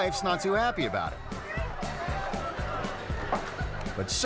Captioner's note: people hooting; twangy music